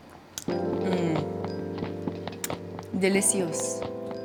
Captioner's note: lips smack